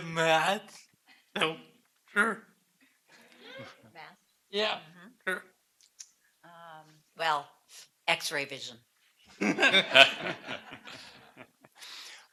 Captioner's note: laughter